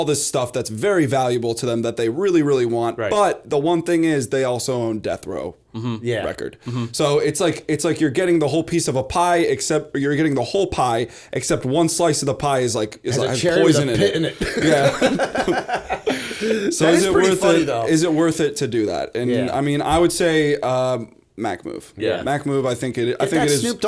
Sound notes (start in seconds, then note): 14.0 laughter